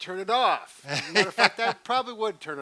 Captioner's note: laughs